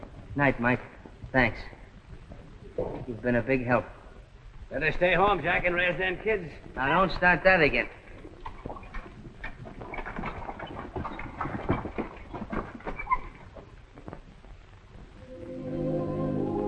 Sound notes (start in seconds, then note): 8.1 carriage sound; 15.2 melancholic music